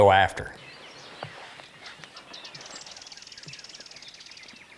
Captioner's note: birds tweeting